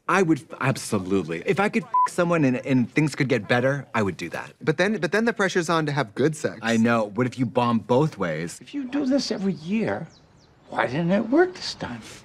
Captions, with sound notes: I would absolutely. If I could (beep) someone and things could get better, I would do that. But then the pressure's on to have good sex. I know, but if you bomb both ways... If you do this every year, why didn't it work this time?